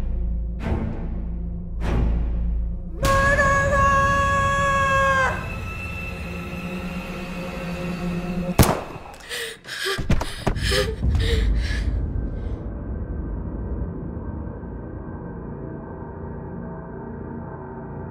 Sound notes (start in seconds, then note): 8.6 shot firing; 10.0 body falling